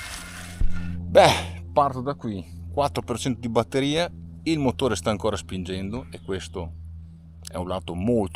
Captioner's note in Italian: sbuffare